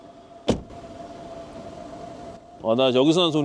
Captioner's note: the sound of an engine approaching can be heard from somewhere